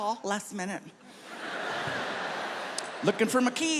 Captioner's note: audience laughs